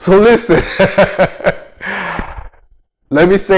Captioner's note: laughs